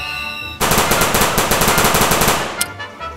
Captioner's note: machine gun fire